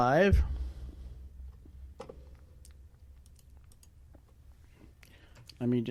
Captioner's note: typing; pause